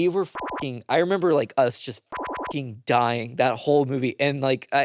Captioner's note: beep; beep